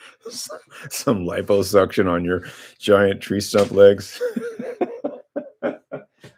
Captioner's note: laughter